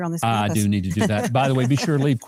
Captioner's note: laughing